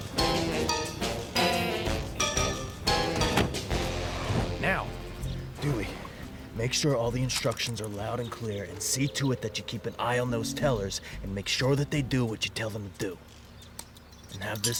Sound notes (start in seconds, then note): 2.1 car doors slam shut